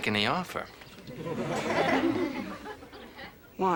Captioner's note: audience laughter